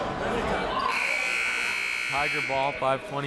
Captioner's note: buzzer